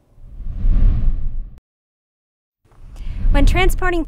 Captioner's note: air whooshes